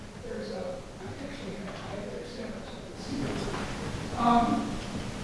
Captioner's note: speaking softly